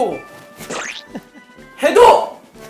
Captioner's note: chuckling